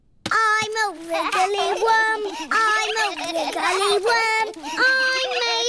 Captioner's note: snorts; all laughing